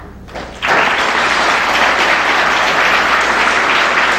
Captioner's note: applause